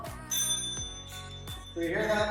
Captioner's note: bell